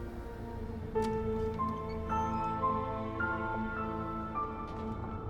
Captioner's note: door latch clicks; suspenseful music